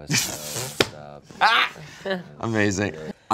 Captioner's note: laughs